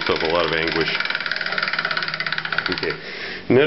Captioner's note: clicking